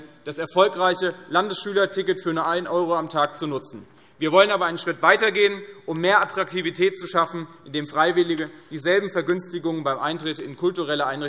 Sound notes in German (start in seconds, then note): none